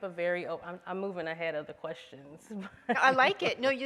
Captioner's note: laughs